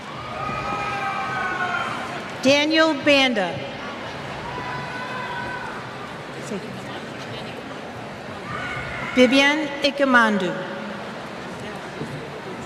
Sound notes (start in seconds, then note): 4.0 cheers